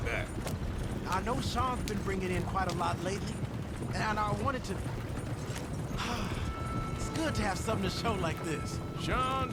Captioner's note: sighs